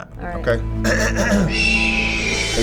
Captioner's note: eagle cries; clears throat; hopeful music